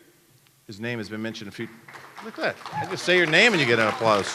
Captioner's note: applause